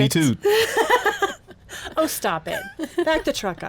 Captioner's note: woman laughs